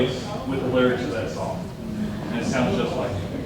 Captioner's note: audience chatters